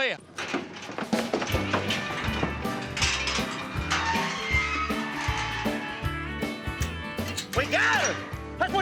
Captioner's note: clanging, creaking sound